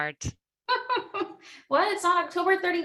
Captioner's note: laughs